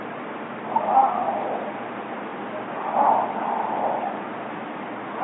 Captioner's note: creature continues vocalizing